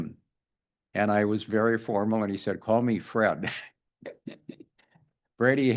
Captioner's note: laughs